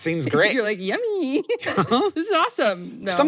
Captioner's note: laughs